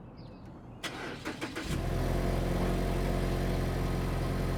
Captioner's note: car engine starts